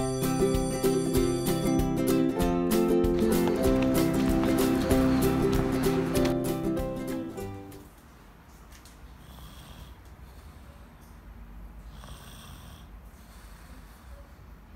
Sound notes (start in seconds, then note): 0.0 bell ringing; 3.2 upbeat music; 9.5 snoring